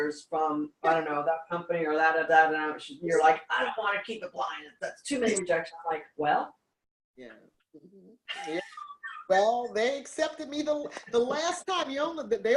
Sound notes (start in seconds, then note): 8.2 laughs